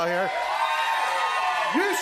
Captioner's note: cheers and applause